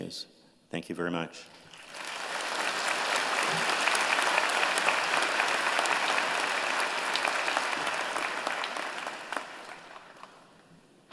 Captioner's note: applause